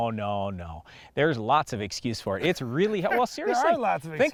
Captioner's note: laughs